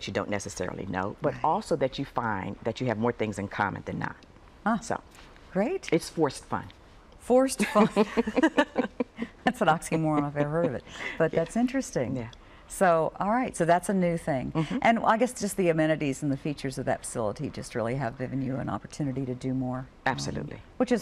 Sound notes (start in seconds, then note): 7.6 laughter